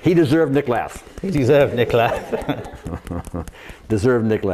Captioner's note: speaks in foreign language; laughs; speaks in foreign language